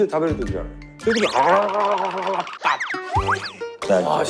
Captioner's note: sound of it becoming spicy